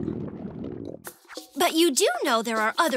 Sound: gurgling

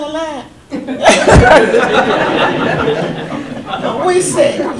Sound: audience laughter

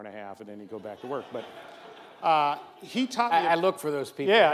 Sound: audience laughs

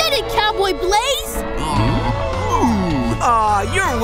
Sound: mooing

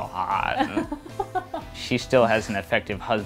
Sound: laughing

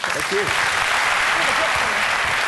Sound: audience clapping

